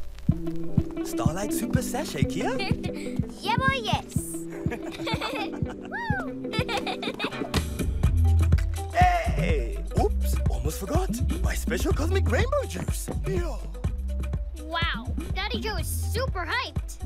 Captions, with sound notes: - Starlight super sashay, Kiya? - (Giggles) Yebo, yes! - (Laughter) - Whoo! (Laughter) Hey! Oops! Almost forgot! My special cosmic rainbow juice! Wow! Daddy Jo is super hyped!